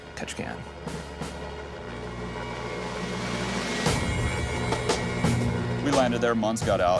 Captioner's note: dramatic music; engine whirring